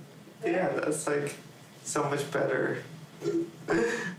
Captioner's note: chuckling